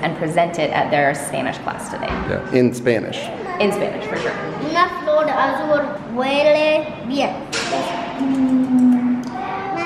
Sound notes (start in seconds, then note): 5.3 speaking Spanish